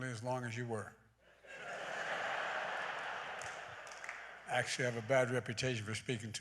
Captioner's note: laughter